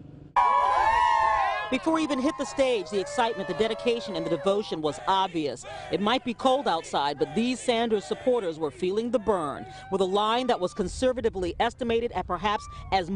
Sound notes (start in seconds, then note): 5.1 cheering